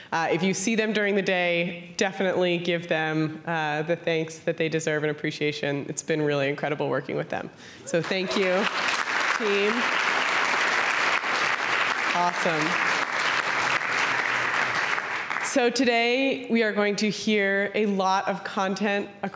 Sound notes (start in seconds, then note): 7.9 applause